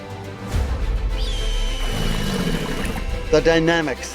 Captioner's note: birds squeaking; crocodile roars